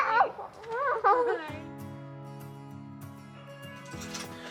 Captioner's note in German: lacht